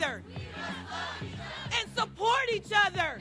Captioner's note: crowd